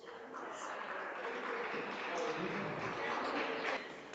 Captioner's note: audience applauds